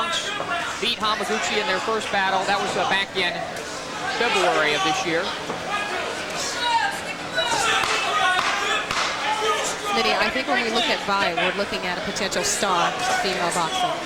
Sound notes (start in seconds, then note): 7.5 knock, knock, knock